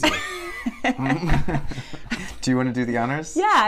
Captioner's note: laughing